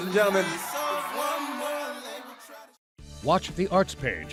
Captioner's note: applause